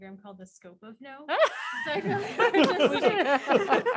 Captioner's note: laughing